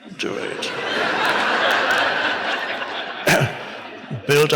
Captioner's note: audience laughs